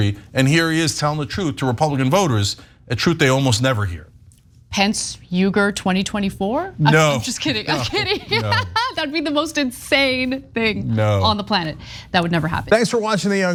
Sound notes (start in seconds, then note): 7.7 laugh